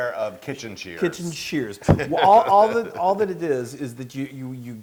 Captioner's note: laugh